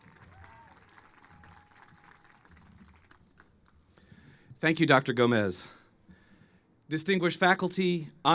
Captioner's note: applause